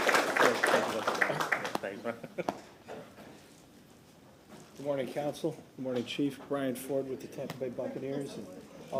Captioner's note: applause